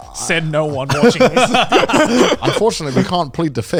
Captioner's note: all laughing